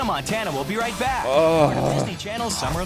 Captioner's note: groaning